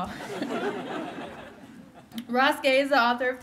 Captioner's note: laughter